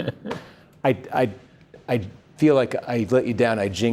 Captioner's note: laughter